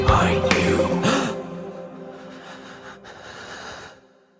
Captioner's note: man gasps and breathes shakily